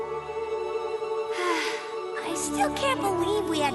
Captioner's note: sigh